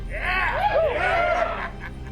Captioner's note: gang cheering